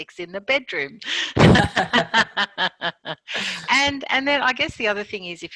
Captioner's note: both laugh